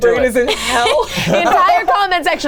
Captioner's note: laughing